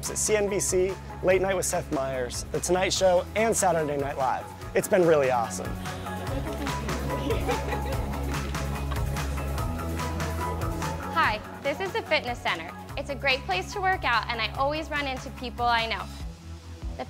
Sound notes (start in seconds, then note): 5.7 students laughing; 5.8 upbeat inspirational music